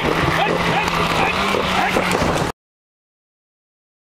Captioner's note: yelling